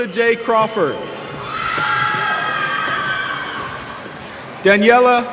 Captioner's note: cheers